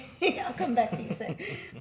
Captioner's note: laughs